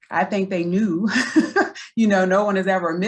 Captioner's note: laughs